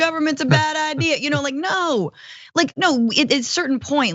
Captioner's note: laugh